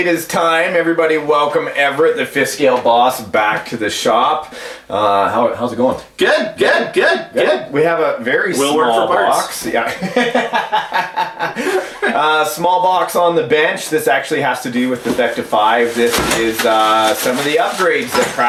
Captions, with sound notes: It is time, everybody. Welcome, Everett, the fifth scale boss, back to the shop. How's it going? - Good, good, good, good! - We have a very small box. - Will work for parts. (laughing) - Small box on the bench. This actually has to do with the Vekta 5. This is the some of the upgrades